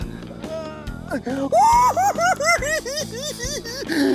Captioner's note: giggling